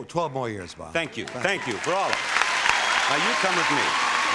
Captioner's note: audience applauding